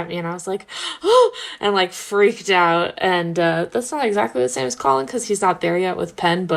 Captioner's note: gasp